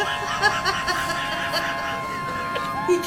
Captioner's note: laughing